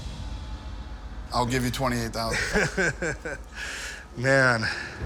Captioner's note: laughs